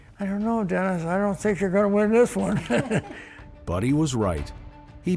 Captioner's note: laughs